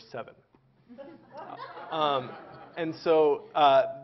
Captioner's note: Laughter; 笑聲